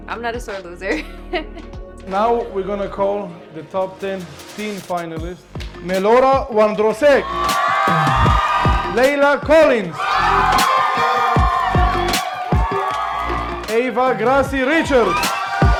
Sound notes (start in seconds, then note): 1.6 laughs; 7.8 audience cheering